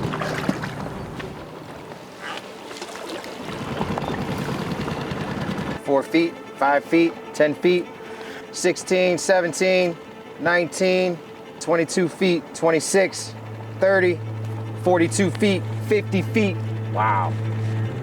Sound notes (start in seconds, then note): 0.0 water lapping; 3.7 motor chugging